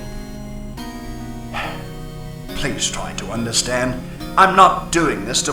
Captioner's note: sigh